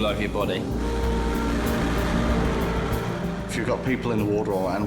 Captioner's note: sirens wailing